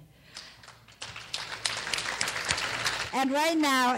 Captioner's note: clapping